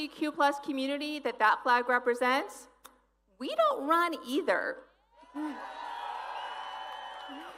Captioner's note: applause